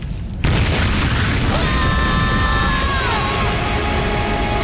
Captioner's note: screaming